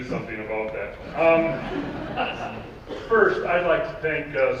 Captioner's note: audience laughing